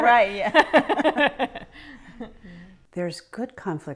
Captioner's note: both laughing